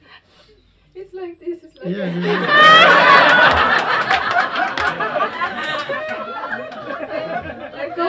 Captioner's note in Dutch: gelach en applaus